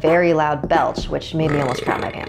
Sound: belch

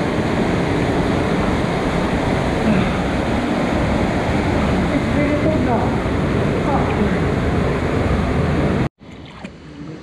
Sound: gushing water

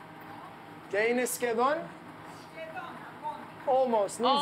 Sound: speaking Greek

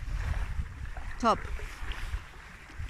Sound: waves

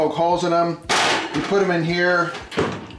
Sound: clanging

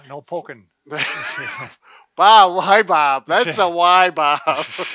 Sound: laughs

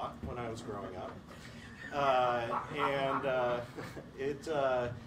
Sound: laughter

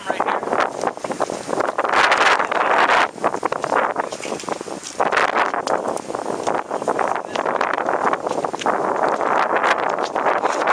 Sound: wind noise

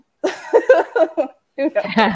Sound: laughing

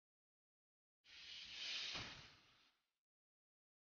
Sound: silence

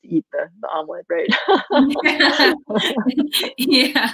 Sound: laughing

